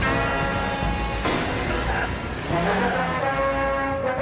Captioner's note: glass shattering